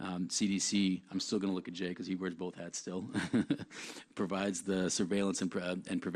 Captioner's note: laughs